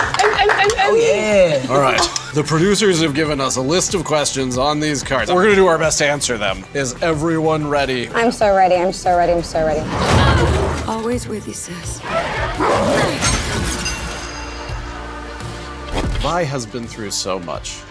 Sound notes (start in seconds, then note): 12.0 Vi grunts